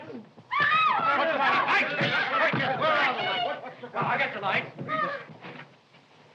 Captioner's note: chaos and shouting